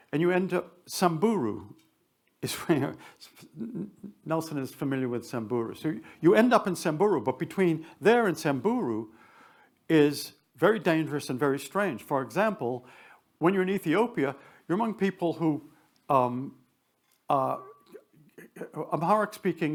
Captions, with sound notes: And you end up Samburu. (chuckles) It's funny how... Nelson is familiar with Samburu. So you end up in Samburu, but between there and Samburu is very dangerous and very strange. For example, when you're in Ethiopia, you're among people who are Amharic-speaking